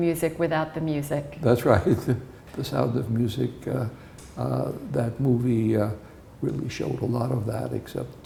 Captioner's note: chuckles